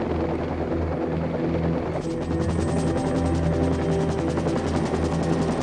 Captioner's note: helicopter blades whirring